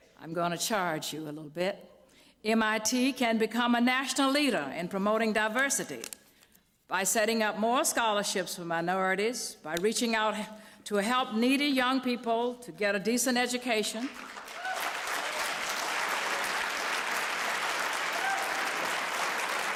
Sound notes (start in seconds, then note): 14.0 applause